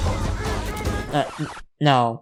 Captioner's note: record scratch